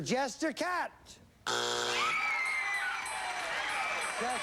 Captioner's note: buzzer